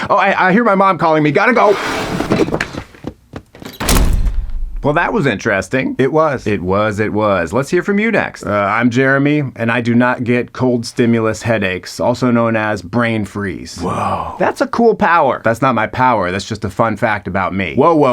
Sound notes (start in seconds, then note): 2.1 footsteps thudding; 2.2 air whooshing; 3.5 door closing